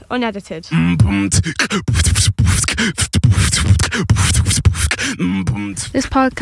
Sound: beatboxing

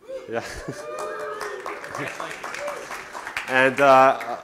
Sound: cheering; applause

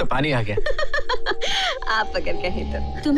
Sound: laughs

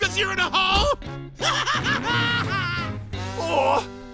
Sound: laughing

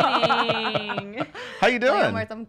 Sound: laughing

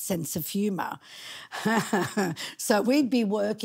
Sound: laughing

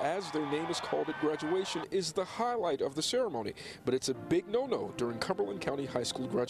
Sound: cheering

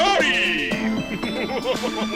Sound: smug laughter

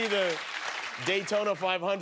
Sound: applause

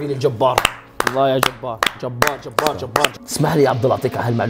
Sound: claps

